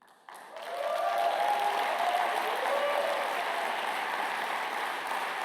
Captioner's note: applause